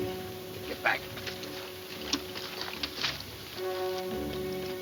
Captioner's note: boots scuffing